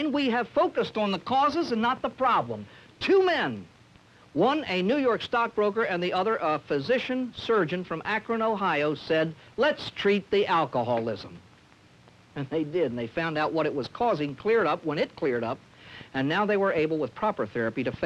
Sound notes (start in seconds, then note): none